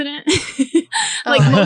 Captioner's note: laughing